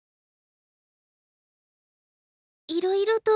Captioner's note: silence